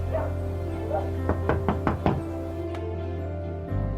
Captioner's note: dog barking; knocking on door